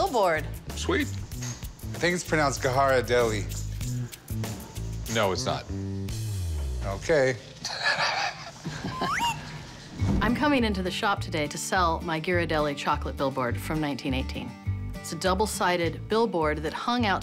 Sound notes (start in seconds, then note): 7.6 chuckles